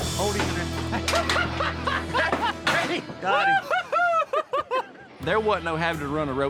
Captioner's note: laughing